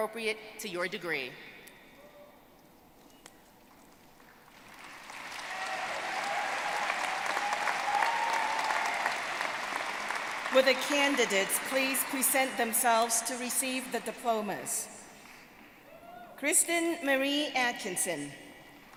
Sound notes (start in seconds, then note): 4.4 applause